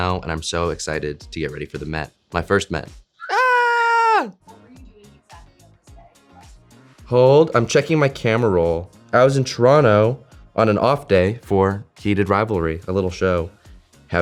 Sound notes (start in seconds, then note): 3.2 Hudson screaming